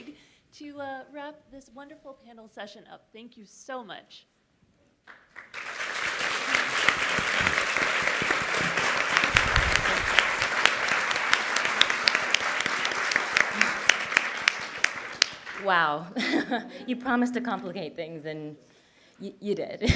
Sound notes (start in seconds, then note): 5.0 applause